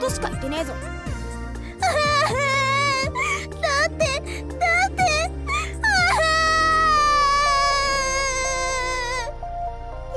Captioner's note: sob